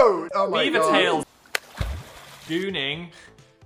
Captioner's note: water splasHing